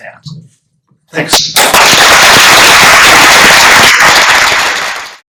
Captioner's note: applause